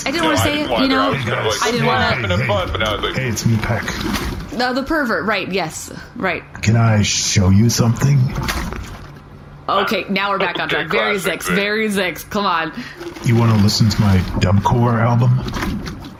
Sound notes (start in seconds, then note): 7.2 seductively